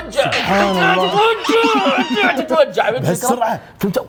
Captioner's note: shouts from pain